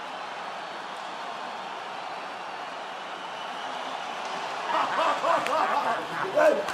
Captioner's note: crowd cheering; laughing